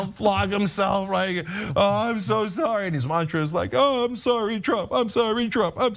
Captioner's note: laugh